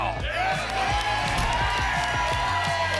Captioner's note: applause and cheering